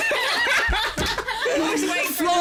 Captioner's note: laugh